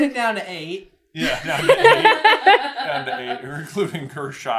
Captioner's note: laughter